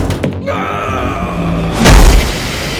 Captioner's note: Ansel's screams